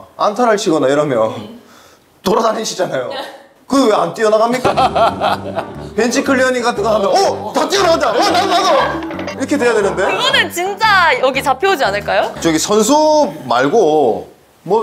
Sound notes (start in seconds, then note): 4.6 hahaha